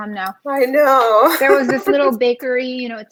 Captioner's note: laughs